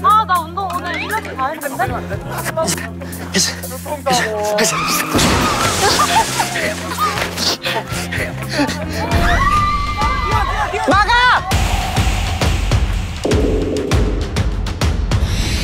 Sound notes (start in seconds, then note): 2.6 33yo breathing heavily